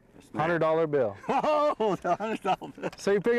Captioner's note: laughter